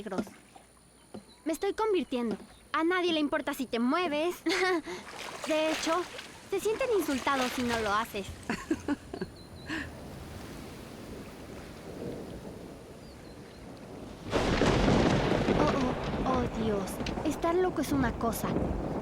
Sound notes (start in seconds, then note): 8.3 laughs; 9.3 wind howling; 12.8 thunder